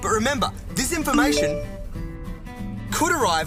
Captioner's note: message tone